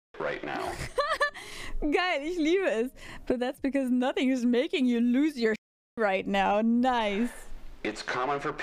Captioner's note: laugh